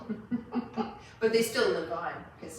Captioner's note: laughs